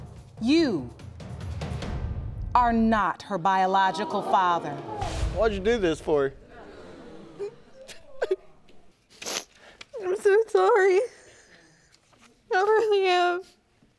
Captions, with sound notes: You... Are not her biological father. What'd you do this for? (CRYING) I'm so sorry. I really am.